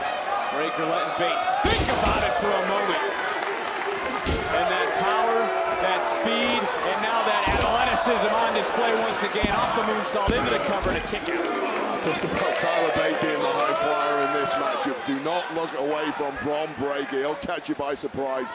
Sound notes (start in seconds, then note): 1.2 crowd cheers